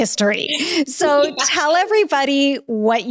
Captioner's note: Danica laughing